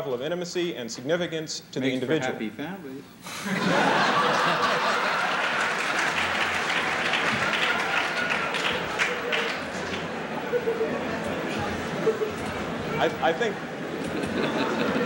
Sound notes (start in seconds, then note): 8.4 laughter; 10.7 applause